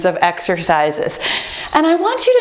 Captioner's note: beeping